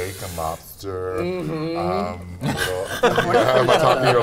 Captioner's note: laughs